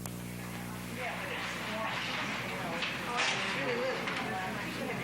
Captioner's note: audience chatter